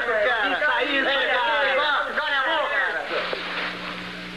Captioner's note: chattering